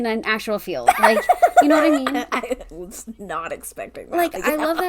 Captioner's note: laughing